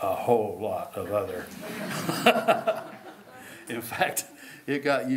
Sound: laughter

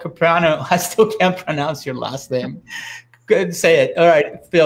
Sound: laughing

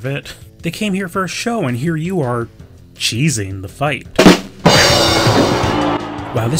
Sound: rimshot followed by crowd booing

